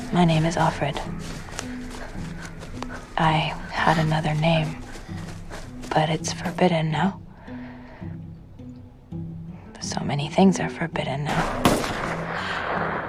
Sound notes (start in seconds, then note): 0.3 voiceover; 3.3 voiceover; 6.0 voiceover; 9.8 voiceover; 11.4 distant gunshots